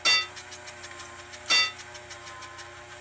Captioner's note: clanking